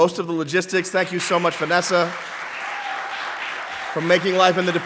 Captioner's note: audience clapping